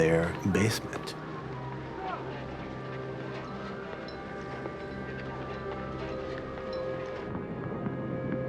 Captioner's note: people talking in background